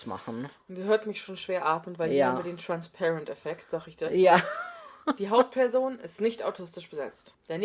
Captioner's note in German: lacht